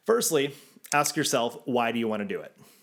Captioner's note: graphics click